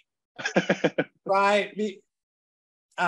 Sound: laughs

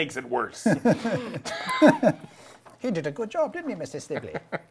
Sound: laughing

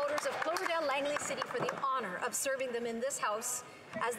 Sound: some Applause

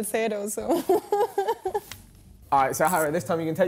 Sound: giggling

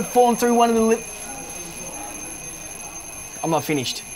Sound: ringing sound

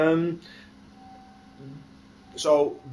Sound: pause

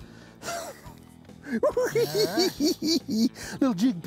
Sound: cackling

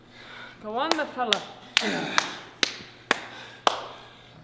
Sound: applause

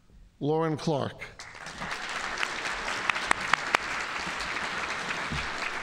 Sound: audience applauding

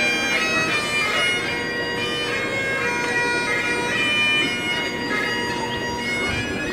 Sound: bagpipe skirling; chattering and laughing

